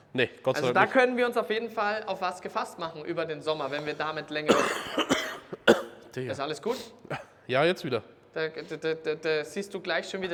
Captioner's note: coughs